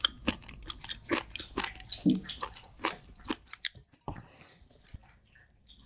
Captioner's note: Mozzi drinking water 🎶